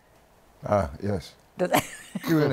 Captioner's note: laughs